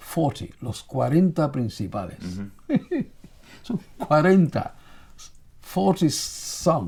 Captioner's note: speaking in foreign language